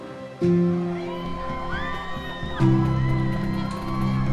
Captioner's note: cheering